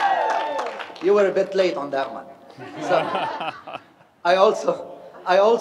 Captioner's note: laughter